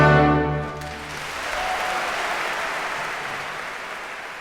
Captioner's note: applause, cheering